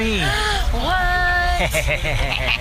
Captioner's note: gasps